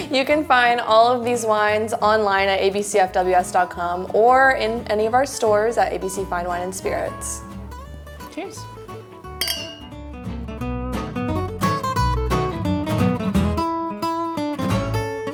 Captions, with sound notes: - You can find all of these wines online at abcfws.com or in any of our stores at ABC Fine Wine & Spirits. - Cheers. (glasses clink) (playful guitar music)